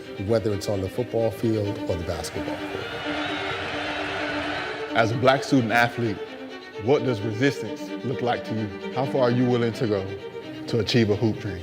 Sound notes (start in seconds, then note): 2.2 crowd cheers